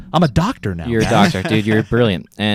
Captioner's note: laughs